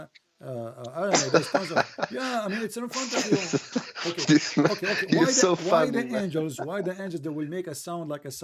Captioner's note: Ketawa